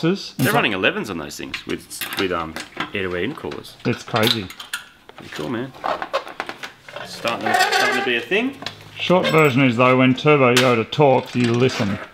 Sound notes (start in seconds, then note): 5.1 plastic squeaks and rattles; 8.3 chair squeaks